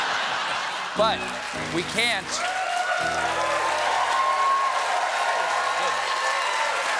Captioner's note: laughter; piano riff; applause